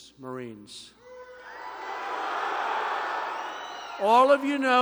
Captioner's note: applause